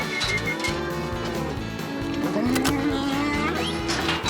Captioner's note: whistling; mooing, ear tag clicking